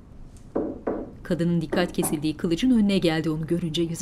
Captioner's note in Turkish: Vurma sesi